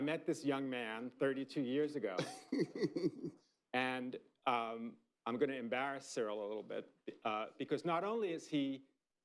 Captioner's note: laughter